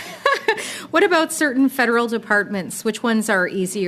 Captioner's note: laughter